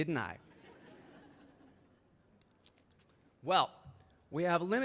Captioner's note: audience laughing